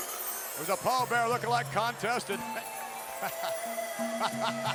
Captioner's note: chuckles